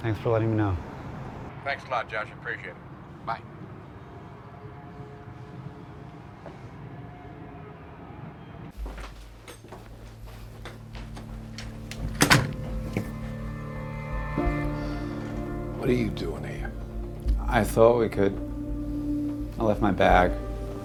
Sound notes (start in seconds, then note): 6.5 traffic humming; 12.6 dramatic music